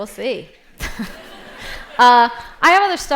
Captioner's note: laughter